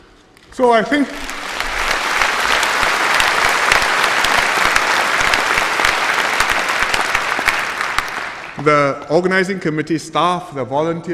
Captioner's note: applause